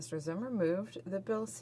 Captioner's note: speaking French